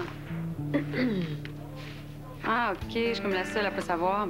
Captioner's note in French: Raclement de gorge